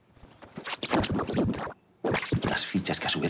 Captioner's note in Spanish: audio distorsionado